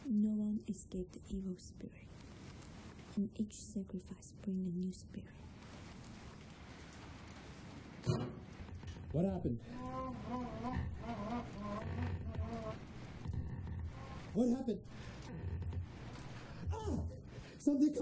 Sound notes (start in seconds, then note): 8.5 metal scraping; 11.5 moaning; 16.9 Jason yells